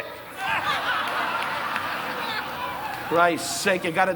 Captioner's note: audience laughing